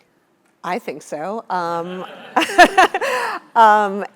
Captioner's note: laugh